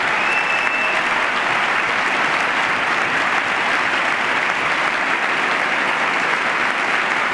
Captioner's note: applause